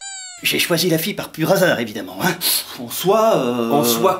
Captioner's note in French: reniflement